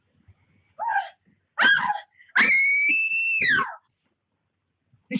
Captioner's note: screaming loudly